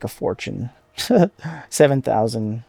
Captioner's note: laugh